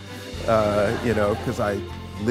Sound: audience laughs

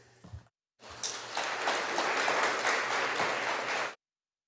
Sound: audience applauding

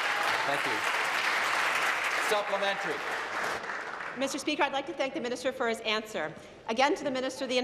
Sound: applause

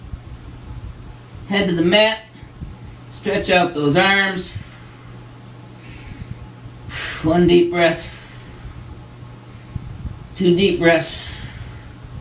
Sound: deep breaths

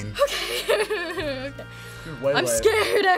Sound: laughs

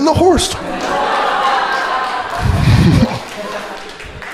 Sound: crowd laughing

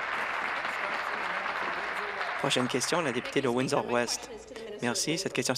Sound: applause

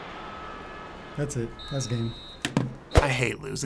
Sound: referee blowing whistle

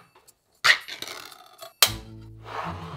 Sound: metal opening

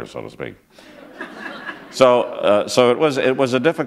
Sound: laughter

